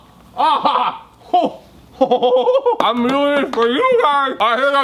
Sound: yells; laughter

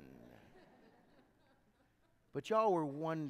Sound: congregation laughing

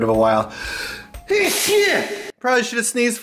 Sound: sneeze

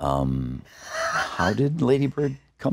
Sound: laughs

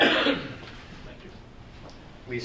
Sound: audience member coughing drowns out speaker

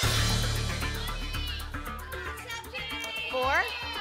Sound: audience shouting numbers

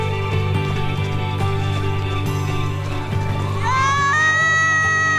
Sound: crowd cheering; bell ringing

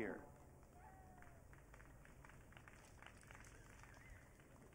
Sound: audience clapping

